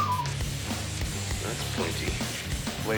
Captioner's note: whistles